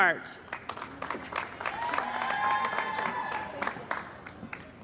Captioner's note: cheering & Applause